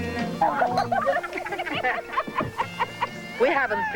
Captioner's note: giggling